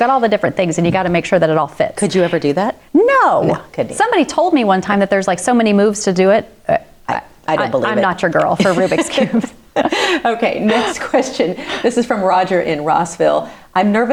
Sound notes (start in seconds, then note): 8.4 both laughing